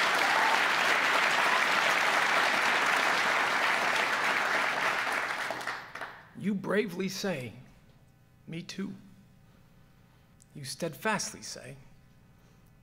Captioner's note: applause